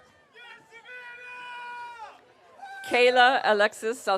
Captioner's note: audience cheering